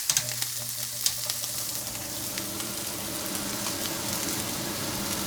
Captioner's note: fan whirring